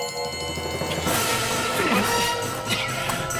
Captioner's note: grunts, fighting